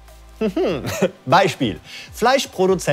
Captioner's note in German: lacht